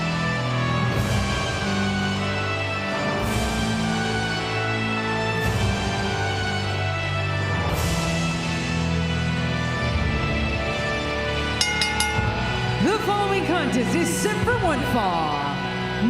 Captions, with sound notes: (ominous music continues) (bell ringing) The following contest is set for one fall.